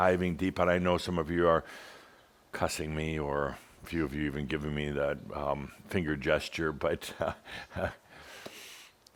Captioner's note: Adamus chuckles